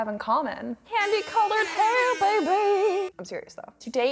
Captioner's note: sing-songy